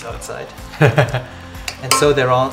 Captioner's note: laugh